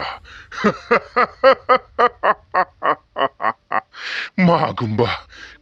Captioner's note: laughing